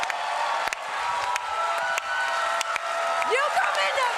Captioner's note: cheering